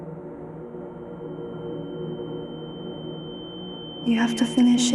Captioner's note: high-pitch ringing